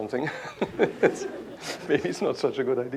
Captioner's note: laughter